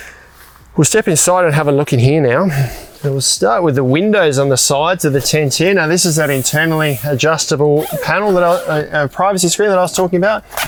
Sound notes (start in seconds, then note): 5.7 fabric hissing; 8.1 zipper squealing